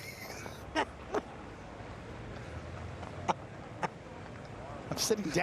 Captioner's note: laughter